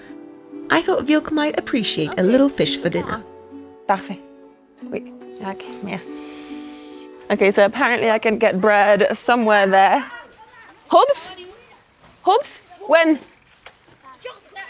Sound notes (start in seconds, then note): 11.0 both speaker speaks in foreign language